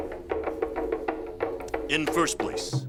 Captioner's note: volume increases